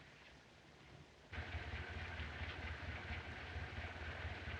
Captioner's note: engine Idling